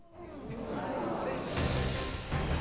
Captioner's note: audience reacts